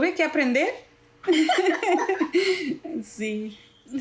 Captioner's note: laugh